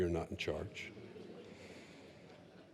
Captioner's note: laughter